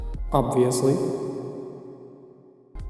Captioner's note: reverb sound effect